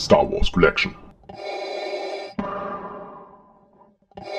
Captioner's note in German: Darth Vader Atemgeräusche